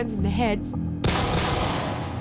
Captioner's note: gunshots